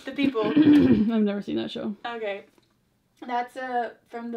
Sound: clears throat

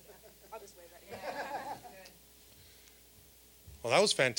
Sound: all laughing

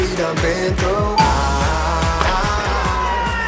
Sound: chime dings

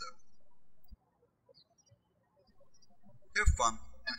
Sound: birds chirping

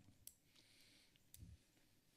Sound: deep breathe

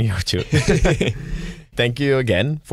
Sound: laughter

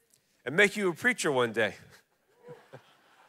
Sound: chuckles; congregation laughing

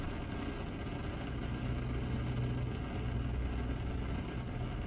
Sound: whirring fades and is replaced by a constant motor-like sound

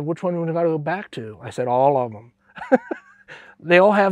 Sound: laughs

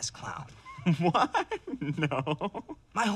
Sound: chuckling

